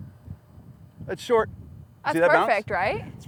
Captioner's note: none